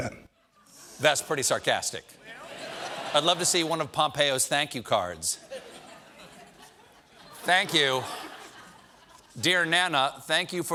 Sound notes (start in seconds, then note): 2.3 laughter